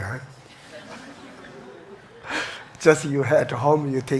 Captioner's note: audience chuckles